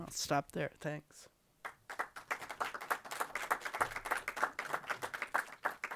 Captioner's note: audience applauding